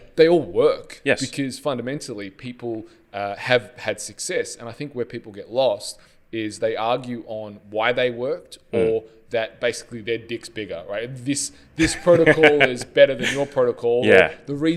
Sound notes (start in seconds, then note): 11.8 laughs